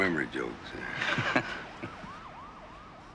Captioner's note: laughs